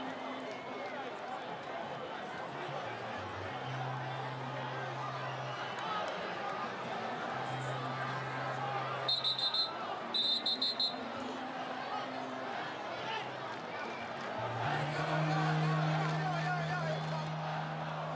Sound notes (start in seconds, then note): 1.8 cheering